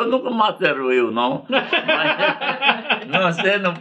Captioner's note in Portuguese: risos